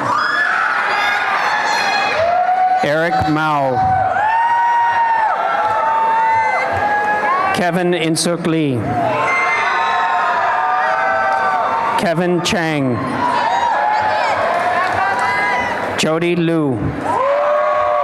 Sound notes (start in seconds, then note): 0.0 applause and cheering; 4.4 cheering and applause; 8.8 cheering and applause